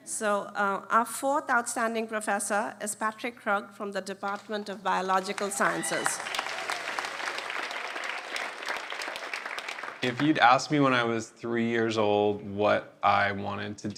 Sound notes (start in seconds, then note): 5.1 applause